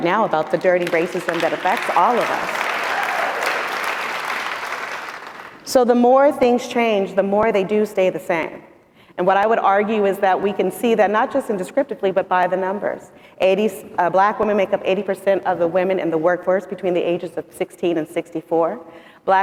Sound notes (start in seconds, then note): 2.7 audience applauding